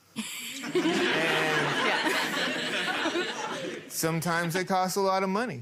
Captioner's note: people laughing